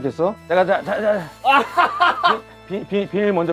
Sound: laughing hysterically

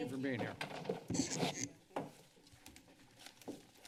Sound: chair creaks noise

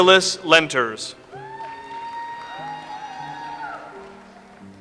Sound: audience applauds

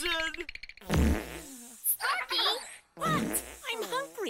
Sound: farts

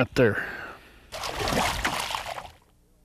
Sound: splash

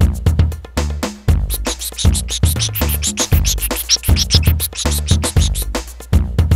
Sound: squawk squawk squawk squawk squawk

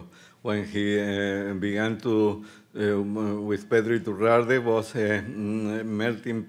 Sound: speaking Spanish

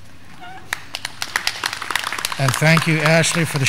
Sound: graduands clapping

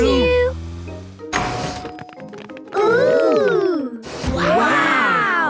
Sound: door dings open

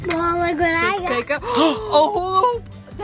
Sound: gasps

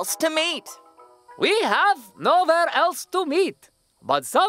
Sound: speaking in accent

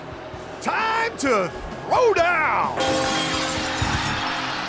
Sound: bell tolls

